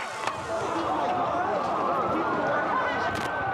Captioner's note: sirens